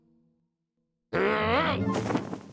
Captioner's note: growls